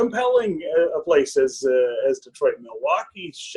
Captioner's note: laughs